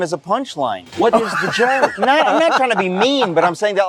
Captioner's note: laughs